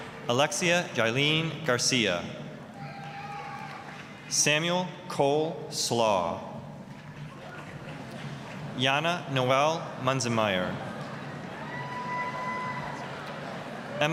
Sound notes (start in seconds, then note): 2.7 applause, cheering; 7.2 applause; 10.7 applause, cheering